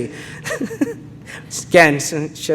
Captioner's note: laughing